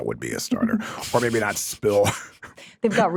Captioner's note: laughs